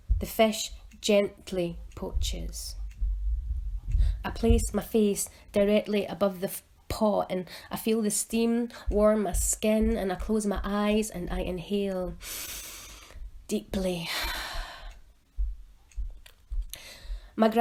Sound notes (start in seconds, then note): 12.2 exhales; 12.2 inhales